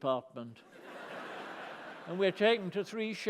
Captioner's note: laughter